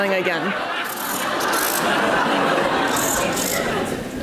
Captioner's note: audience laughs